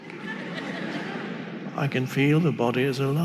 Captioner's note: audience laughing